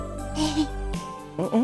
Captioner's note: chuckle